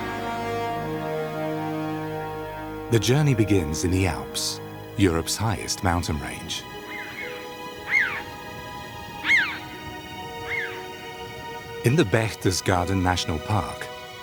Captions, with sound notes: The journey begins in the Alps, Europe's highest mountain range. (birds squawking) In the Berchtesgaden National Park,